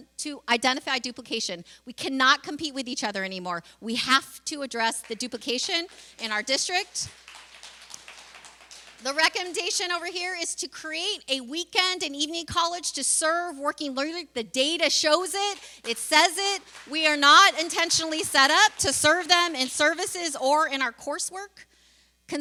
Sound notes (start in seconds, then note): 7.0 applause